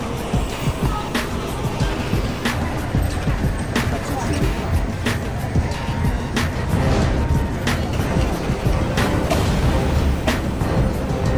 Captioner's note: ambient city sounds and music